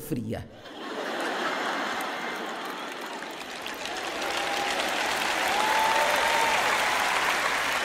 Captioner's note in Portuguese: audiência ri; audiência aplaude